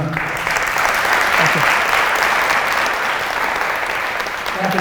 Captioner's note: applause